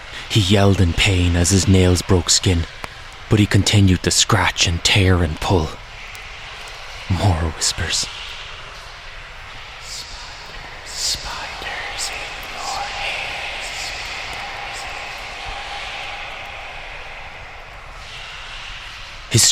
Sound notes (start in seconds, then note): 9.8 sinister Whispers